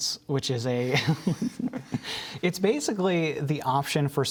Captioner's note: laughter